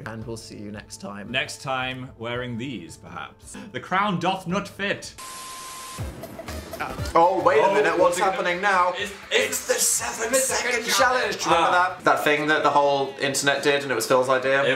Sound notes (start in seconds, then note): 5.2 screen beeping; 6.2 upbeat music